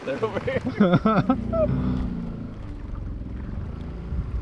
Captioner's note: guys laugh